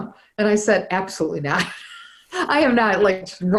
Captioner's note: laughs